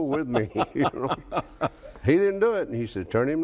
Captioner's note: both laugh